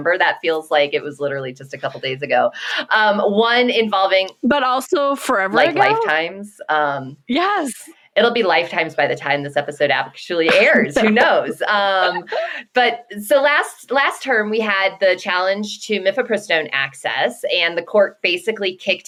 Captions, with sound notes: that feels like it was literally just a couple days ago. One involving... But also forever ago? Like, lifetimes. Yes. It'll be lifetimes by the time this episode actually airs, who knows. [Laughs]. But so last, last term, we had the challenge to mifepristone access and the court basically kicked